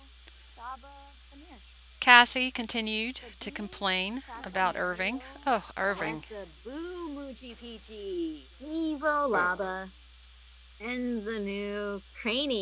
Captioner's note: In Simlish: oobey peachyneechee. . . Craney myath lou